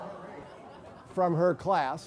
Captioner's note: laugh